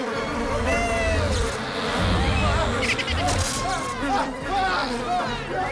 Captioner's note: screams